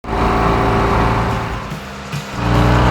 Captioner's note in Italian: Motore che sale di giri